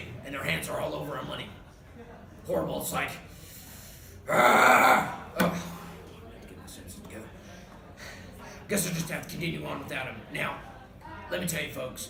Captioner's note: yelling incoherently